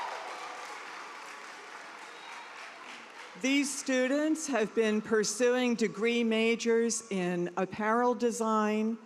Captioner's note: cheers and applause